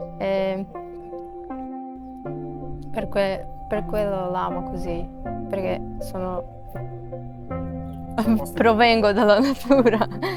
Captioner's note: laughs